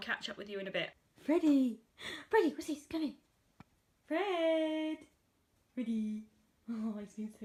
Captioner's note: playful voice